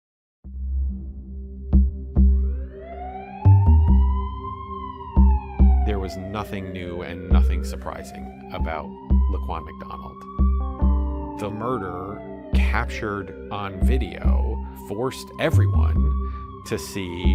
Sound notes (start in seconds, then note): 8.3 police sirens